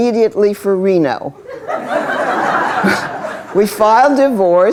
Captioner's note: laughter